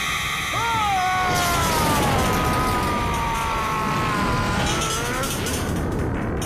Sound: yelling

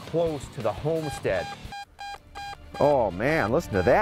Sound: beeping

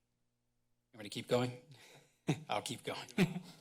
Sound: pause; chuckles; laughs

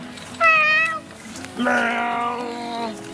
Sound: hooting sounds

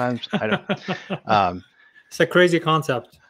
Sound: laughs

